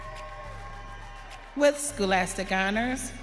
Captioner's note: audience cheering